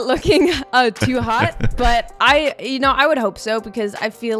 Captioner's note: he chuckles